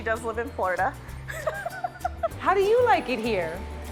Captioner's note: laughs